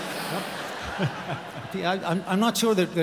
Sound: audience laughs

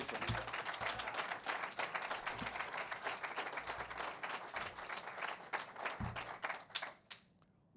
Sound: cheers and applause

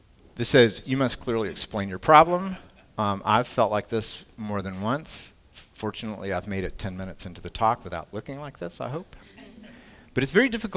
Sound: laughter

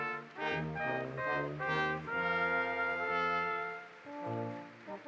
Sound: audience applauds

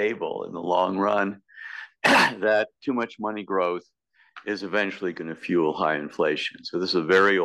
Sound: cough

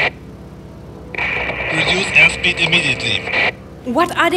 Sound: crackle

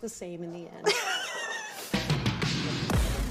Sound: laughs

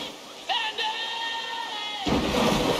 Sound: water splash

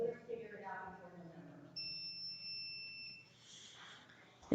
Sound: buzzing

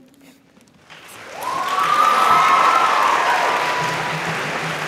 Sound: audience applauds

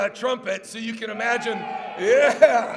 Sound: cheers

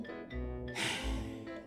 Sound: sighing

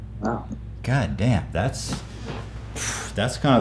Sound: sigh

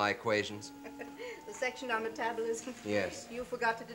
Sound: Dr Kinnian chuckles

